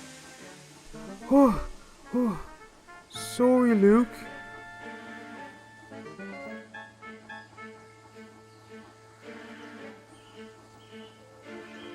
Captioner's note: sigh